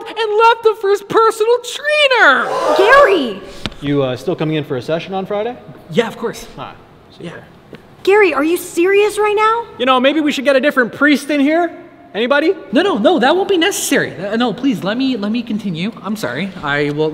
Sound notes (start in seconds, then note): 2.4 audience gasps